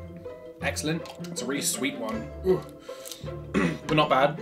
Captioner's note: clears throat